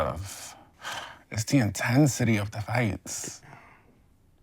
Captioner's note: sighs